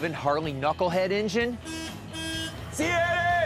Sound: horn honks

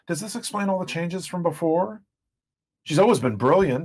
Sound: none

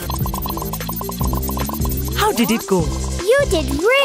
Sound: hearts popping

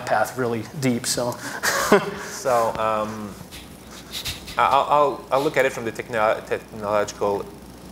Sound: laughter

